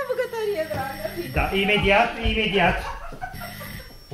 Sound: knocks at the door

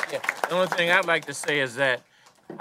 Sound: applause

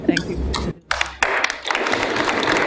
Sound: applause

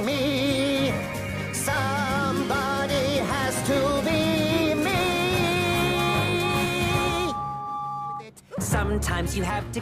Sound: James whistles thrice

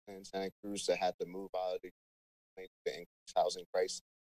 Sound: speaks faintly

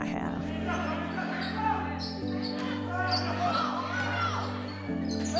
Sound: yelling on the court

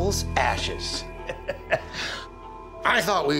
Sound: chuckles

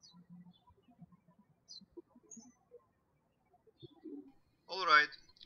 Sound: birds chirping

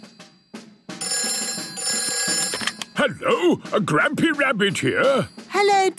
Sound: phone ringing

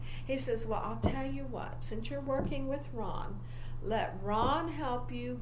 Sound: taps table in rhythm with verbs

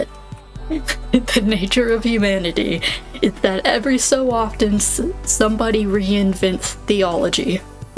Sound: cracking up

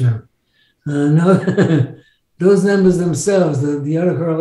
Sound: laughs

